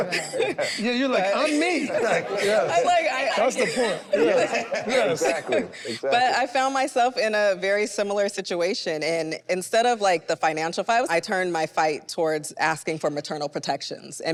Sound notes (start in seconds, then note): 0.0 group chuckles; 2.4 group laughs; 4.4 group laughs